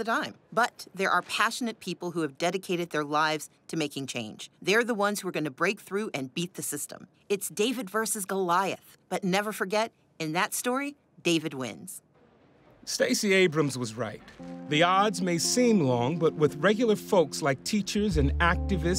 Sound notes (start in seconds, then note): none